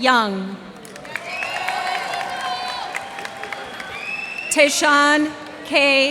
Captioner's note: cheers and applause